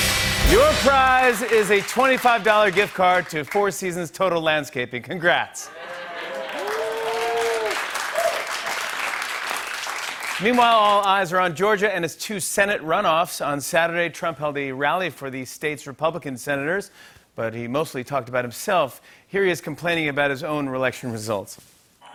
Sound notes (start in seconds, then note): 5.7 cheers and applause